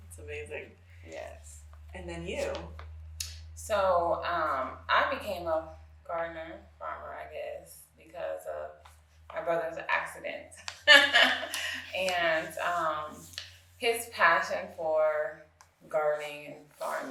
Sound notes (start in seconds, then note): 11.1 guffaws